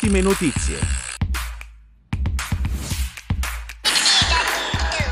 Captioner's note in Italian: Applauso